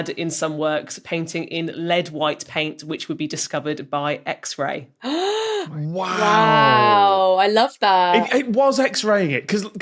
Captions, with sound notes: in some works, painting in lead white paint, which would be discovered by X-ray. (gasps) Wow. Wow. I love that. It was X-raying it!